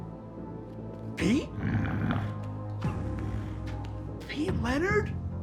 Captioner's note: Pete growls